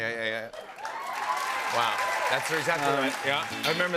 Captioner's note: cheers and applause